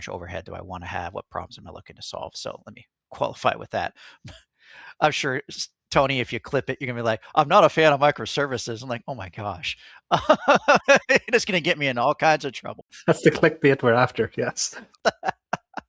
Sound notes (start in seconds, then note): 10.1 laughing